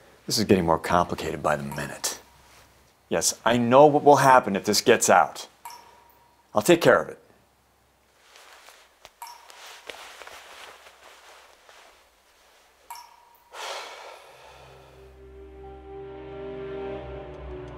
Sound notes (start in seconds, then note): 9.3 water plopping; 15.1 dramatic music